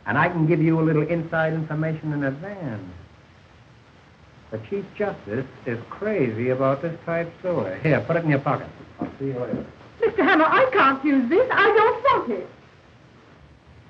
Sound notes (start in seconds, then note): 4.6 whispering